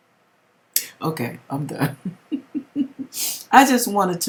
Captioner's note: chuckle